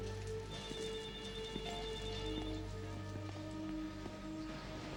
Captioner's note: phone rings